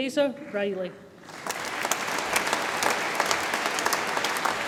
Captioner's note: audience applauds